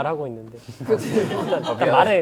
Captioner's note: talking resolutely